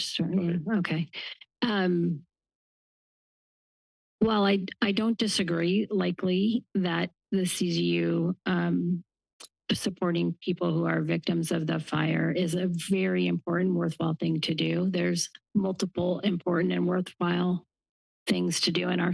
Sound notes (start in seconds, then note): none